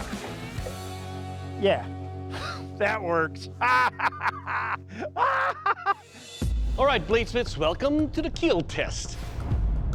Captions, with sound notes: Yeah. That works. [maniacal laugh] All right, bladesmiths. Welcome to the kill test.